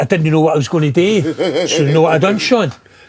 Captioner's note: laughing